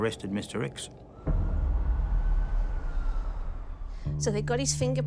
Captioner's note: siren wails distantly